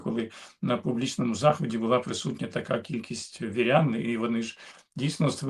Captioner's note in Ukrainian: сопіння